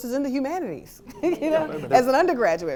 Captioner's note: laughter